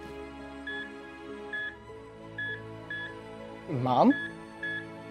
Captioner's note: reflective music; machine beeping